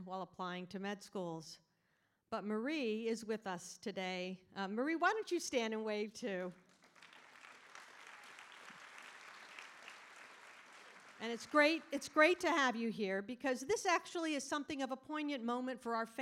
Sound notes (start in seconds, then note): 6.7 audience applauding